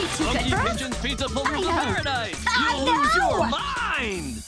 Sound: TV playing

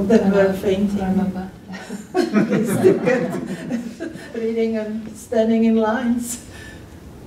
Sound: laughter

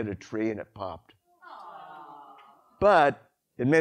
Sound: audience: sympathetic noises

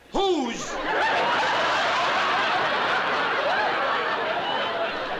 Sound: laughter

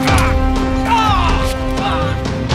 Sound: cry of pain

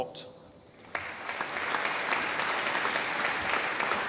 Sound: audience applauding

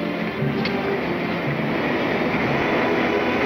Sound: clacking

